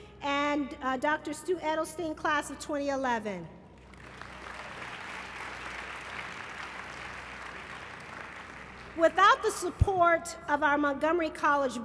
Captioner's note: applause